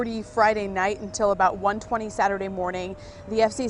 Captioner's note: siren sound